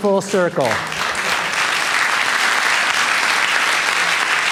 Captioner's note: applause